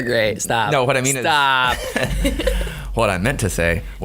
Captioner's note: laughing